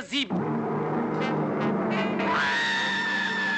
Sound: plane engines roaring; woman screaming

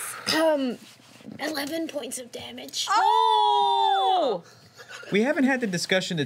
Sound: group cheers

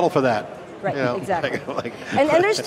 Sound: laughing

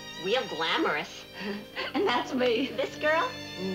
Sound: Ann chuckles

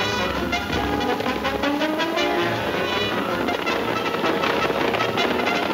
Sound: hooves thundering

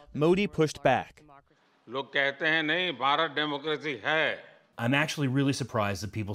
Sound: through translator

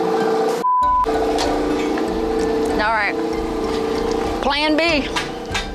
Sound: beep

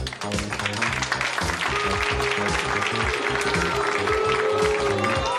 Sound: audience applauding and booing; funky upbeat music

